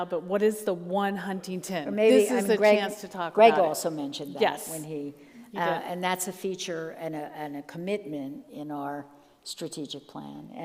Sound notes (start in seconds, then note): none